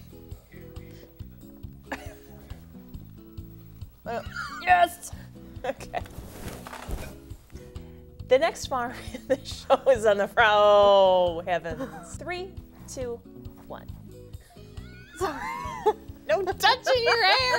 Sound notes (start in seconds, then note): 4.1 laughing